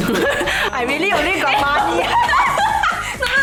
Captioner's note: laughs